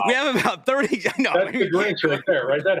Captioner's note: laughs